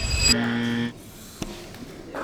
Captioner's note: buzzer; clicking; clapping